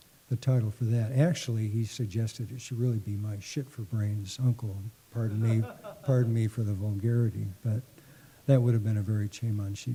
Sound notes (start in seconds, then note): 5.3 laughter